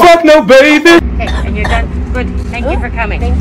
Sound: coughing

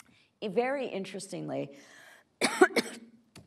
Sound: coughs

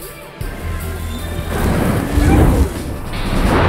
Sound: engine speeding

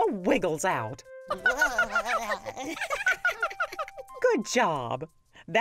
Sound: all laughing

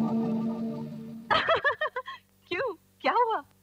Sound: laughs

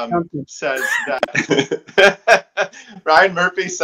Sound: laughing

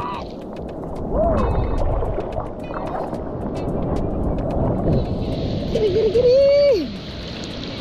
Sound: wave sounds

